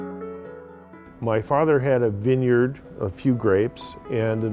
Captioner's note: voiceover